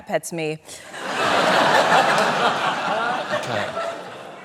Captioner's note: laughter